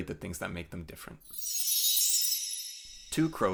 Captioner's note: chime sound